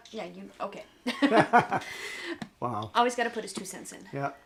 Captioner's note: laughs